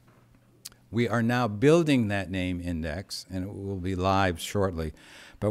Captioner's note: none